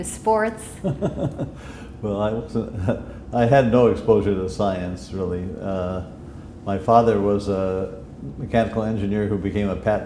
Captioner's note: chuckle